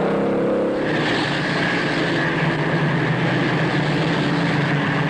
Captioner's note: engine roaring; engines roaring